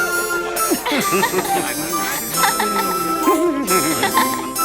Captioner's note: laughing